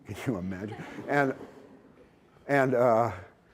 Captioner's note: laughter